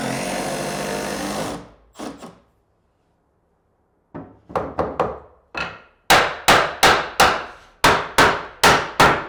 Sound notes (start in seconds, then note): 4.6 hammer pounding